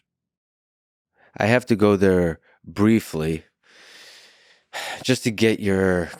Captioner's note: sighs